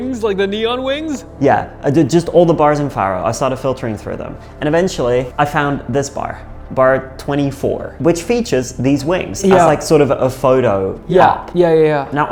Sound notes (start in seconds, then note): none